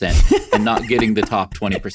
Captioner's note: laughs